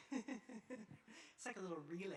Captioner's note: laughing